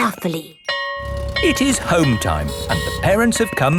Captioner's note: school bell ringing